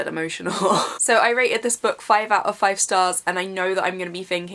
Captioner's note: scoffs